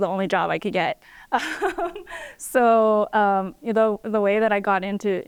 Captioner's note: laughter